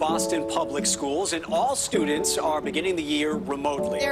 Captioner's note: none